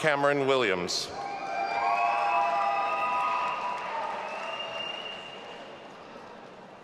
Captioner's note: audience applauding and cheering